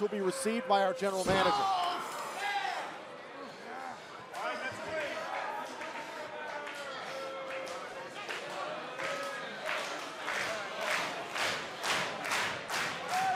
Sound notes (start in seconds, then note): 3.3 crowd cheering